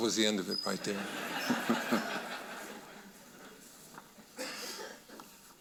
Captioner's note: audience laughing